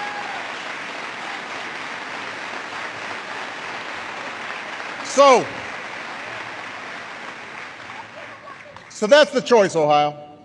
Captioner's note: applause